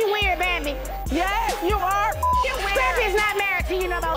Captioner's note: beep